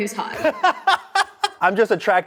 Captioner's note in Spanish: ríe